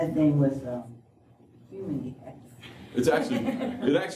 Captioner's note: laughter